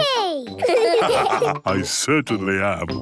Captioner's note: laughs; all laugh